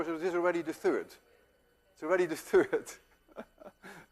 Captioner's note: chuckling